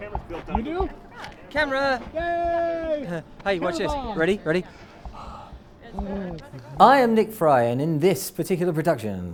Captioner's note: voiceover